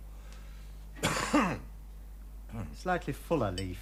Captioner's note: Ralph coughs